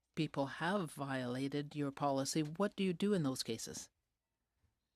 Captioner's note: speaking french